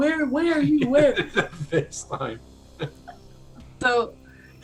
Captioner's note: laughter